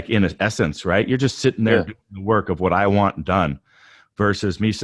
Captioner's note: murmurs